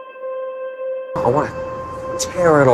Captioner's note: voiceover